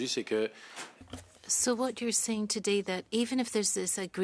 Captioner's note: speaking in French